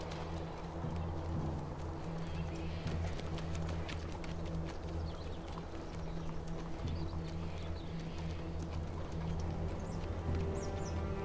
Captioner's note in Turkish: Ortam ve kuş sesleri